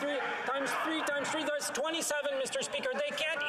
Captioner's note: yelling